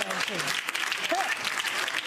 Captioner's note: audience clapping; audience laughing